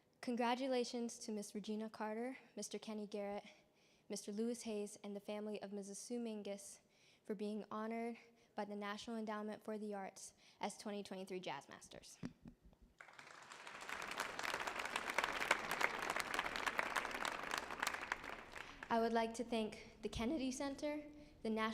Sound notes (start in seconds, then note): 13.0 audience applauding